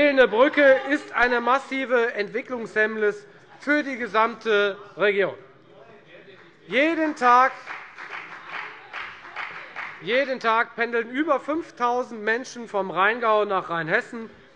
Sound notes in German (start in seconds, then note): 6.4 Beifall bei der FDP